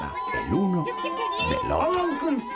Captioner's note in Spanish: habla en francés